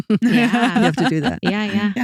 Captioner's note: laughing